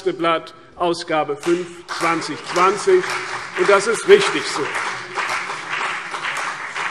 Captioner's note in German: Beifall CDU und BÜNDNIS 90/DIE GRÜNEN